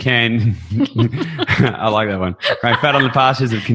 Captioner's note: chuckles